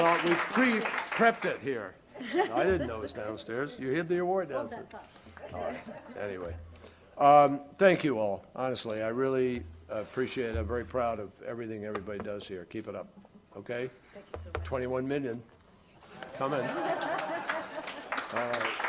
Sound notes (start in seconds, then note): 8.9 applause